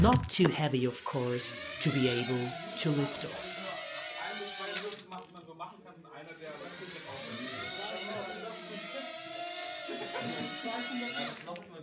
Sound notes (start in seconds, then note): 0.6 sound of rotating propeller